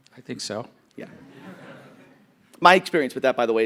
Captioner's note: audience laughing